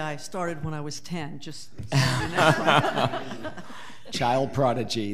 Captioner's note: audience laughing